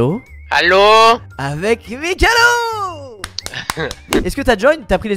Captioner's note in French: applaudissement